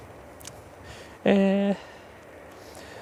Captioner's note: playfully